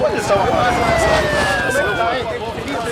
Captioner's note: siren wailing; chattering